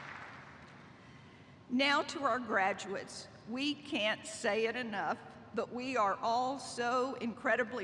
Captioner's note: applause